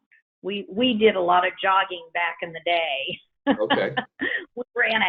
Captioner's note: laughs